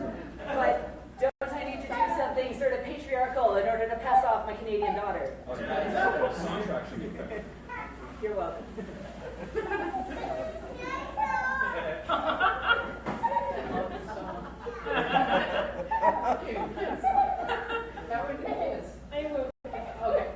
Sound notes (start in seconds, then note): 9.6 audience laughing, baby screaming "DINOSAUR